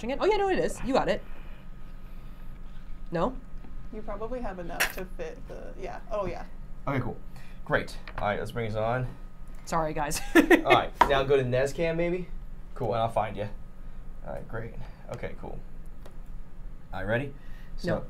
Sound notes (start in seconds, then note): 10.2 laughing